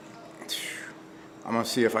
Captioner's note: sighs